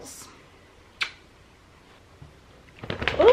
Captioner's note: kissing